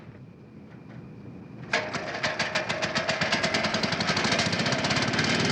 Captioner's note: motor puttering